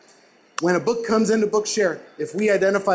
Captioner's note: clap